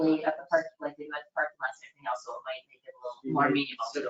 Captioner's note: faintly speaking